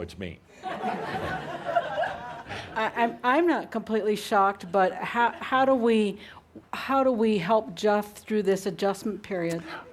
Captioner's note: lots of laughter and applause; laughter